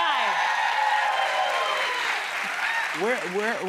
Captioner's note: cheers and applause